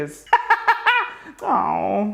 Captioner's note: laughs